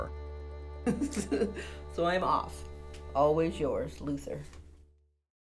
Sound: laughs

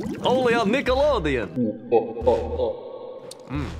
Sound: laughing maniacally

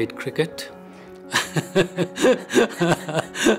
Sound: laughs

